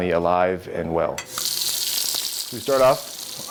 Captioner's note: water running